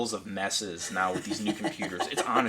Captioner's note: laughing